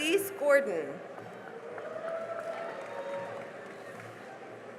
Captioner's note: cheering and applause